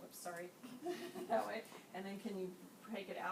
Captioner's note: laughing